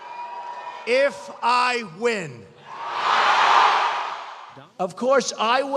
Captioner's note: cheers